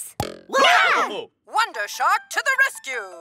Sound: all yell

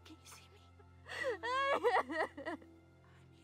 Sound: Jocelyn cries

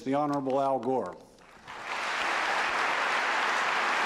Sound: applause

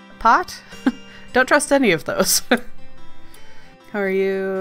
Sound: laughs

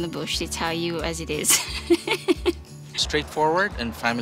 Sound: laughs

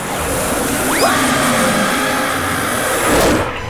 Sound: screaming

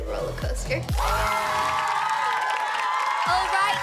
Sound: cheering

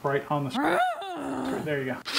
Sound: growl

